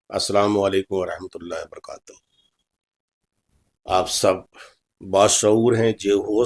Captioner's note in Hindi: नाक से की जाने वाली आवाज़